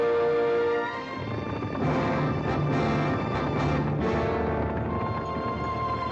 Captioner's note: triumphant music; hooves pounding